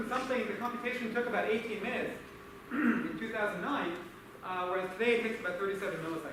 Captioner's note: clears throat